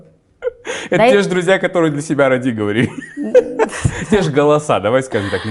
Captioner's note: laughs